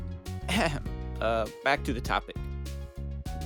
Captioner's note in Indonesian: Ehem